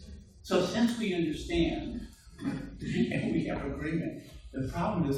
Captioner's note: murmurs